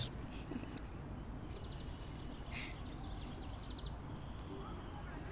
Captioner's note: giggles